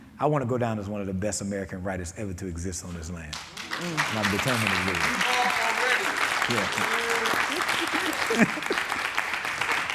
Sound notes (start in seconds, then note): 3.3 audience clapping